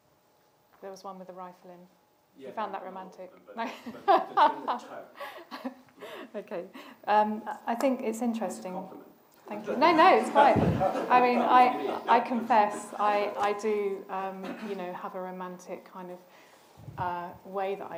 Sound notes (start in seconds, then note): 3.6 laughs